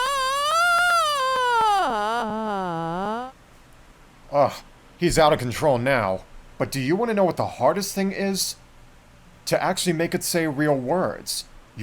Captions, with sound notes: [Pink Trombone yells again] Ohh, he's out of control now! But do you want to know what the hardest thing is? To actually make it say real words.